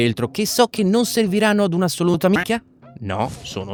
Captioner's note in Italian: quack